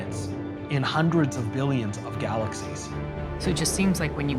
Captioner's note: none